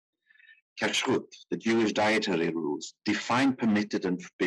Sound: speaking in foreign language

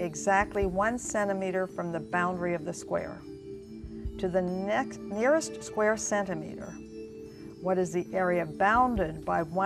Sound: none

